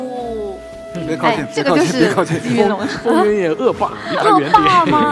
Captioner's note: laughs